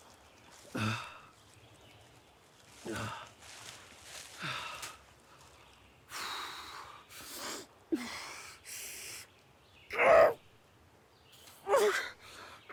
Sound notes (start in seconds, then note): 4.5 Arawn breathing heavily; 9.9 Arawn groaning